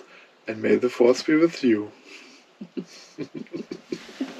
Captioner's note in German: Lachen